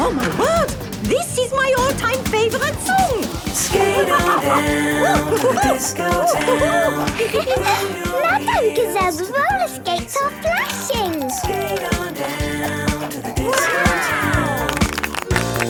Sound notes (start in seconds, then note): 3.6 laughing and exclaiming